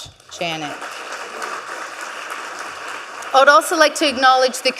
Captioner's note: audience clapping